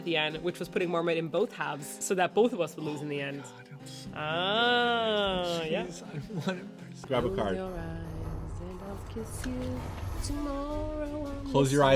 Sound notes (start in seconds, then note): 3.5 sorrowful muttering